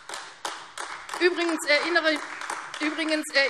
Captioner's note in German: Beifall AfD